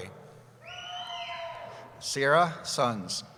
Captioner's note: cheering